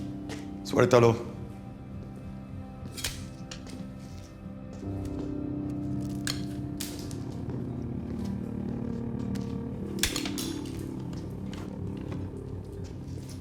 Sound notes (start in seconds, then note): 0.9 Galino speaks Spanish; 0.9 tense music